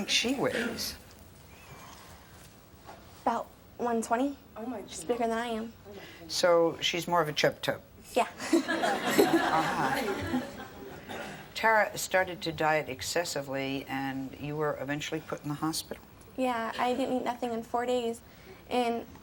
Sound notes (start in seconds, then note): 8.4 laughter